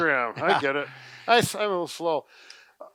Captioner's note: both chuckles